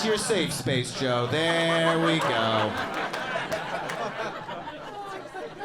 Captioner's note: soft laughter